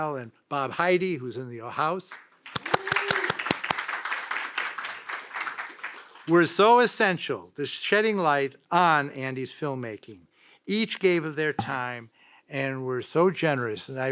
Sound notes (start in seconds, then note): 2.4 audience applauds